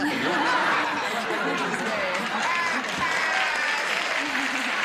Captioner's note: laughter; laughter and applause